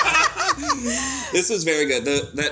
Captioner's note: all laugh